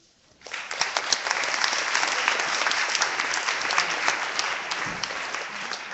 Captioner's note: clapping